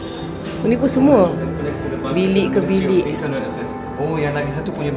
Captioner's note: speaking German